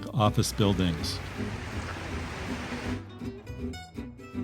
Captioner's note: wind blowing